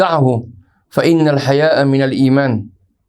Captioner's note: arabic